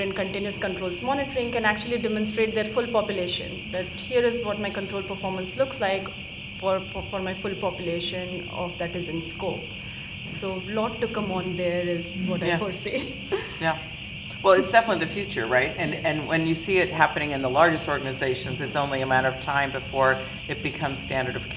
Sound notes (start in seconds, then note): 8.3 speaking faintly